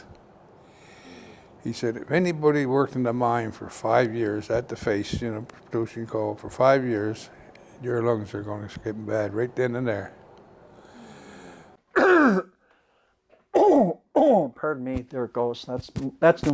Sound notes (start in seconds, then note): 11.8 coughing